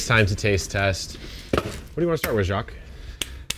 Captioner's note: fruit basket thuds; hands thumps